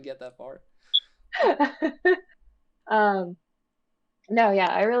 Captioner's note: laughter